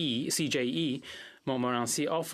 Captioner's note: speaking French